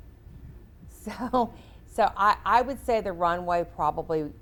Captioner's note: chuckles